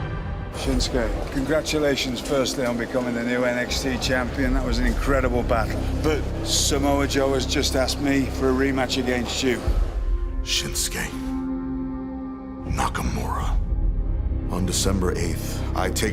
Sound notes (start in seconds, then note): none